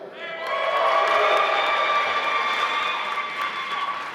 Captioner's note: applause